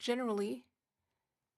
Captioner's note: speaking French